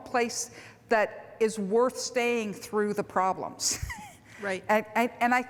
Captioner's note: laughs